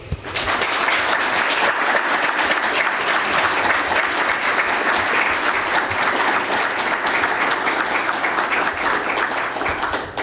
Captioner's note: applause